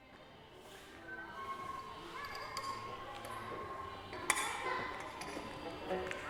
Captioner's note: children speaking foreign language